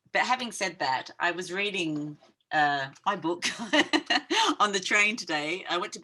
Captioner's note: chuckling